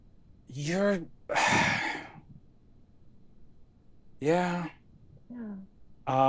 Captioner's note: sighs deeply